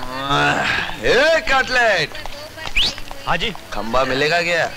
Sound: whistling

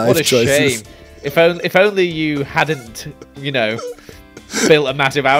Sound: squeaking laughter

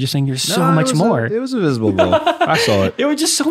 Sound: innocent chuckles

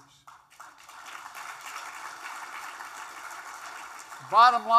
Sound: applause

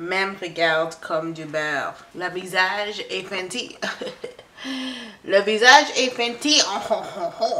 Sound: impersonates weird French laugh

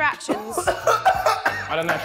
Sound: strong coughing

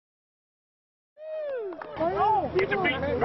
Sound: cheering

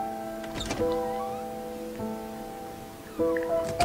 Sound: door opens; door closes

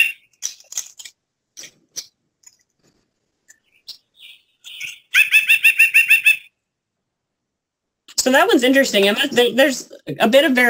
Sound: sound effect

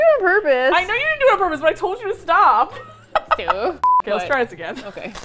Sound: laughs; beep

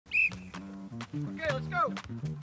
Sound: coach whistles

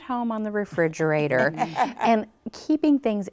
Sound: group laughs

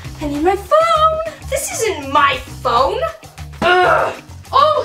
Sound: groans

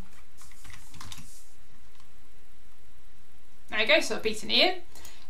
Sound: keyboard clicking

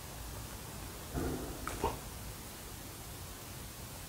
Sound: bump

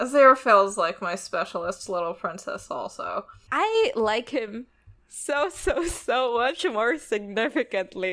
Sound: laughs

